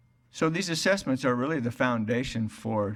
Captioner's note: none